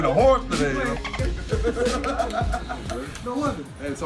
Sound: laugh

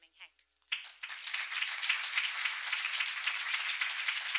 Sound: applause

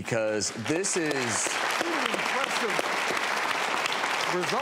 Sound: clapping

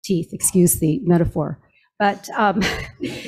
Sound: chuckles

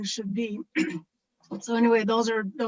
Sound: clears throat

